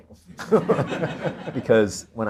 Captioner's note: audience laughter